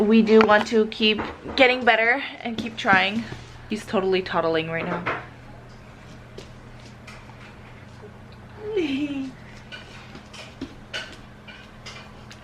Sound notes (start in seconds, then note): 8.5 giggles